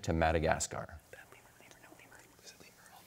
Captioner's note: whispers